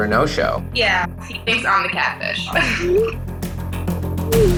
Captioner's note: giggles; dramatic music